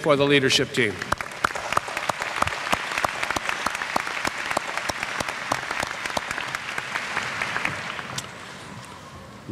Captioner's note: applause